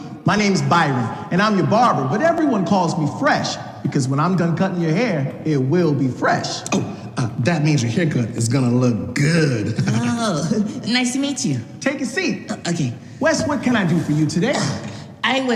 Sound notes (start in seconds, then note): 9.3 chuckles